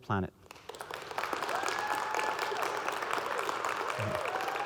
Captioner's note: audience clapping